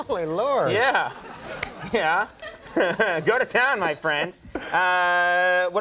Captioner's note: laughing